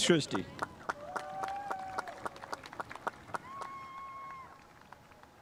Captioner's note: spectators applauding